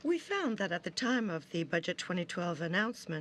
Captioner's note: speaking French